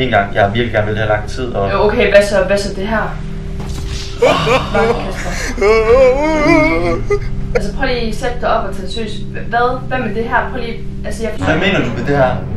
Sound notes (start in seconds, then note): 4.2 trying not to laugh